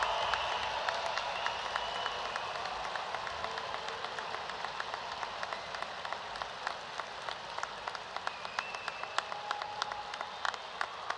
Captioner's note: cheers and applause